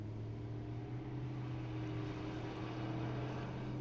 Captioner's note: traffic sounds